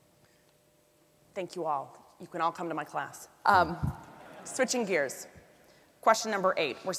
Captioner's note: audience laughs